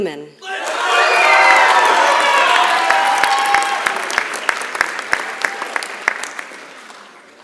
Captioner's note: applause